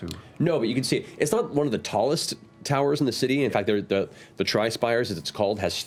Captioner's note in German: none